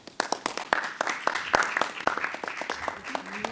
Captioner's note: clapping